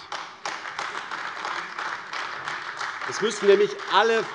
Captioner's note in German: Beifall AfD